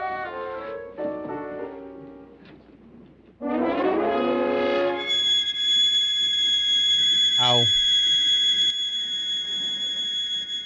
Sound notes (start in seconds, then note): 5.1 high-pitched noise